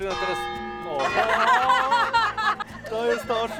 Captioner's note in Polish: śmiech